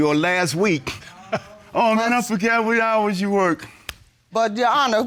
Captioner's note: chuckles